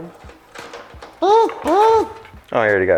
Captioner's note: impact Gun Noises